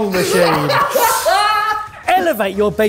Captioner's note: laughing